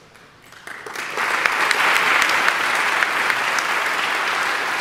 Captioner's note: audience applauding